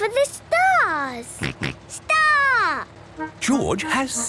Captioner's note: snort